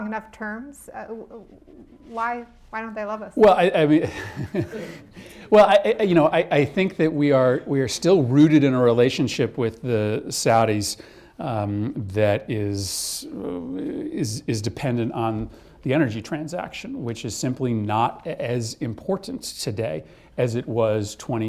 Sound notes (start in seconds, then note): 3.9 laughs